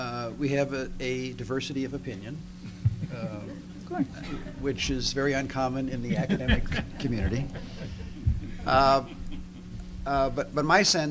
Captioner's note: laughter